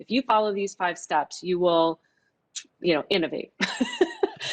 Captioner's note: laughs